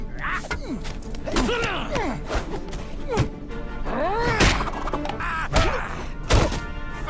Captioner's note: fighting grunts